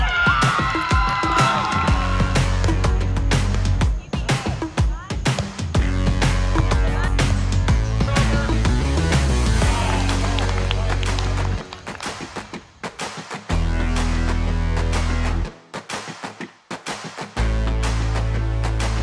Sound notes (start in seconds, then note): 0.0 cheering; 9.6 crowd reactions, applause